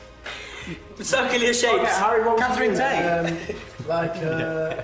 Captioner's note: laughs